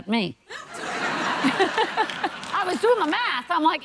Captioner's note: audience laughing